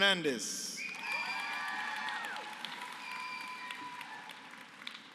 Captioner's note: applause